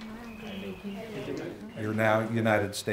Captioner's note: all repeat